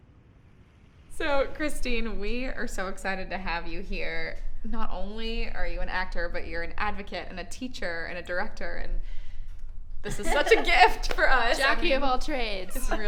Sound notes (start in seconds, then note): 10.1 laughing